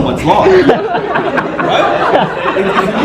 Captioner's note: laughter